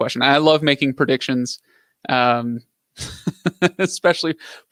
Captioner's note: laughs